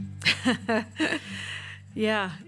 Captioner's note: laughter